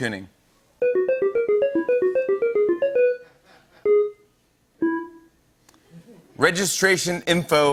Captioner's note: tones play